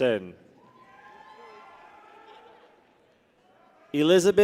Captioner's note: people cheer